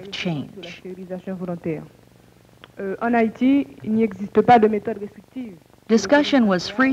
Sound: non-English speech

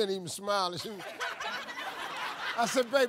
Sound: audience laughs

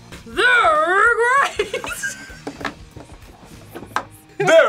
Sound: laughs

